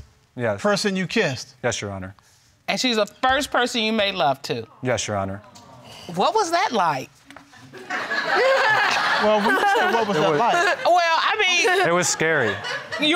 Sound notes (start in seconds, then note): 7.8 everybody laughing